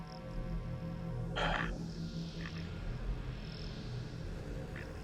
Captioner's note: sighs